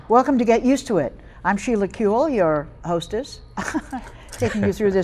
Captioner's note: chuckles